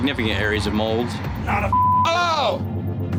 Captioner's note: beep